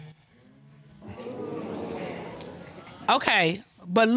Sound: audience gasping

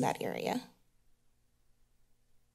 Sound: silence

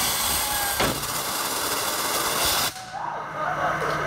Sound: wheel emits high-pitched whine; wheel bursts loudly; whoops and laughter

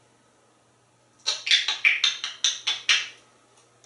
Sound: clicking Noise

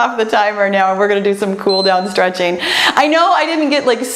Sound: timer beeps

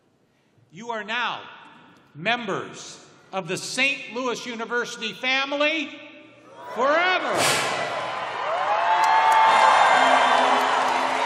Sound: cheers and applause

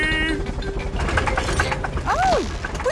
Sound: helicopter engine sputtering

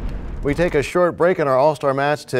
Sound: crashing sound

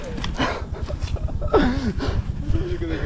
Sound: both laugh

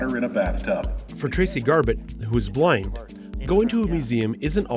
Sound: voiceover

